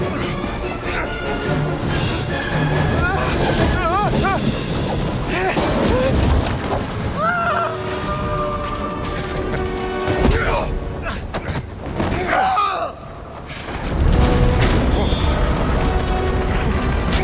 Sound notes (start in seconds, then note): 6.8 scream fades; 12.2 screams; 13.7 loud rumbling